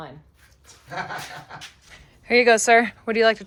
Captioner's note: laughs